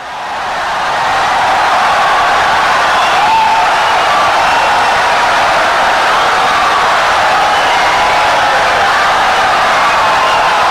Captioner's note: wild applause and cheering for 17 seconds